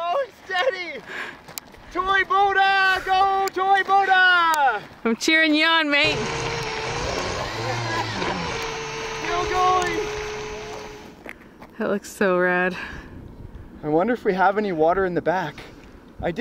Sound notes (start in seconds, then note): 6.0 motor buzzing; 6.3 water splashing